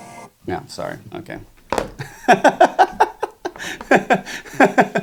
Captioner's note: laughs